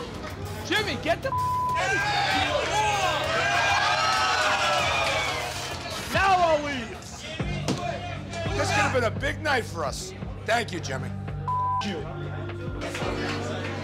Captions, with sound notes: - Jimmy, get the (beep) - Now I'll leave. - This happened to be a big night for us. Thank you Jimmy. (beep)